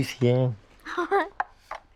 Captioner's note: laughs